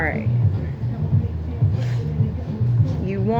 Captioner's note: sniff